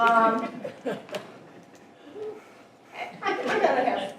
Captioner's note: audience chuckling